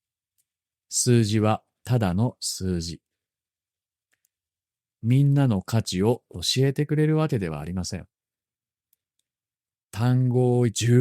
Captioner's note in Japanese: かち